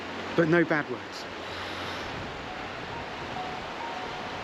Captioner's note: waves crashing